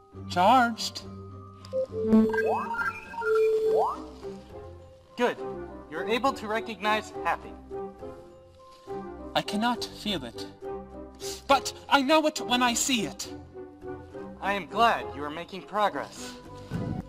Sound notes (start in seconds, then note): 1.7 beep in agreement